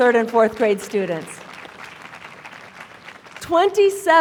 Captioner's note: applause